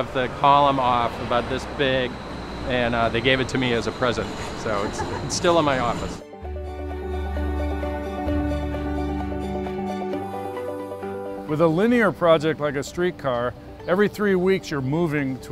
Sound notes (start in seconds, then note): 4.6 laughter